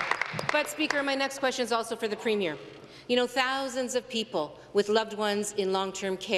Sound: some Applause

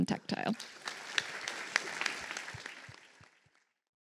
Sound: applause

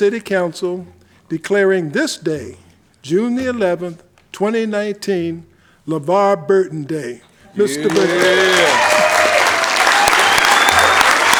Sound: applause

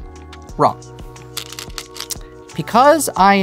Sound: stones rattling

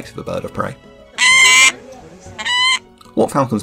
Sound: Peregrine Screech

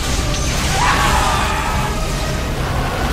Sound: aliens screaming in terror

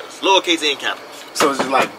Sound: knocks on door

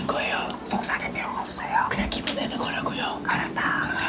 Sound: whispering

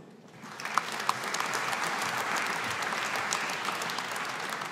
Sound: audience applauding

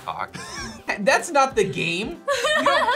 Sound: laughs

